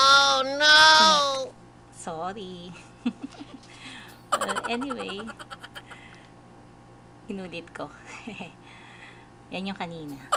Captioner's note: giggling